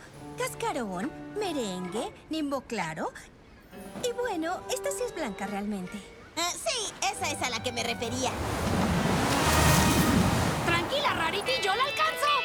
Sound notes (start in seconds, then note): 8.1 whoosh